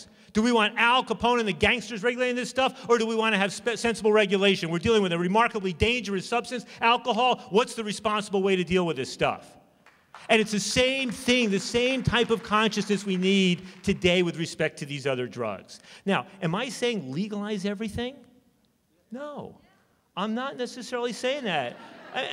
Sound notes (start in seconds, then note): 9.8 applause; 21.5 laughter